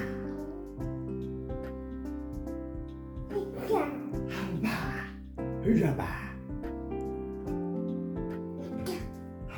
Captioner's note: he speaks a fictional language